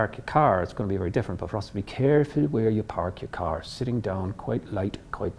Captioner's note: in Irish accent